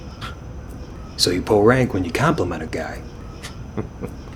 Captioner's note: chuckles